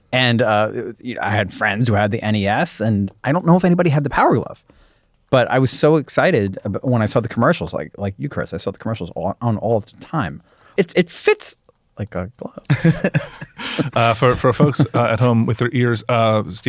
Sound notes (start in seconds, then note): 12.6 laughing